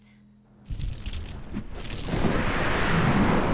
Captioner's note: crackling; whooshing; explosions roar